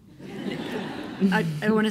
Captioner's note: laughs